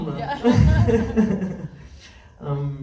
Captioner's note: laughs